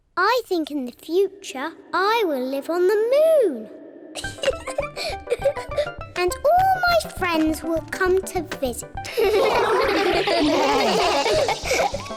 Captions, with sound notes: I think, in the future, I will live on the moon. (LAUGHS) And all my friends will come to visit. (ALL LAUGH)